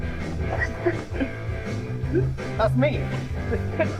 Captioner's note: laughs